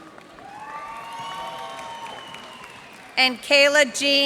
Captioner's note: cheers and applause